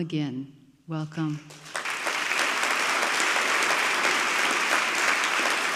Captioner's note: audience clapping